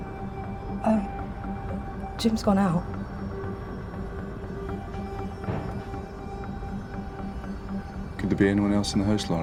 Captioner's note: door slams inside house